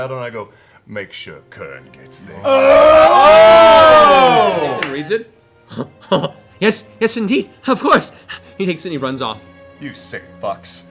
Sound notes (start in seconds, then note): 2.5 laughter; 5.7 chuckles